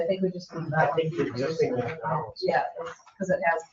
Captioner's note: members chattering